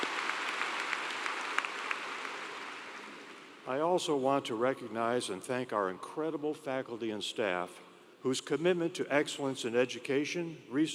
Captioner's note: applause